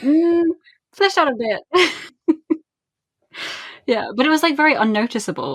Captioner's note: laughing